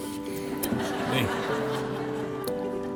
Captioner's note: laughing